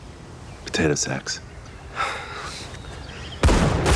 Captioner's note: sighs